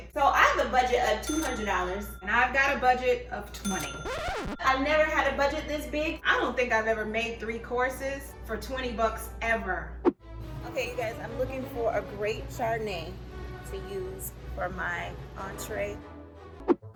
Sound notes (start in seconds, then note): 4.0 record scratches; 10.4 classical music; 15.9 whoosh